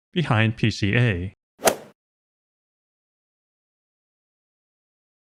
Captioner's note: golf ball hit sound effect